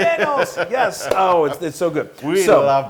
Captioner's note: laugh